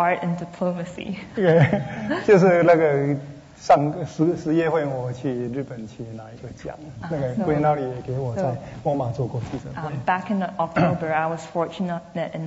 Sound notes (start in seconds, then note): 3.0 speaking Mandarin